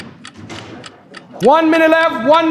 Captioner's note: exclaiming; clock ticking